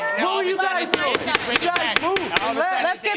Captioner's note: banging gavel